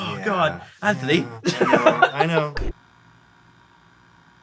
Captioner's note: laughs